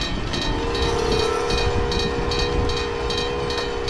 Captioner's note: train brakes squealing